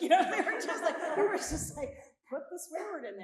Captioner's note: all laughing